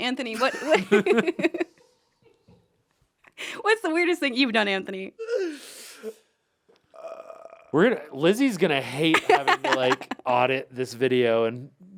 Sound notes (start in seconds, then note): 0.3 group laughs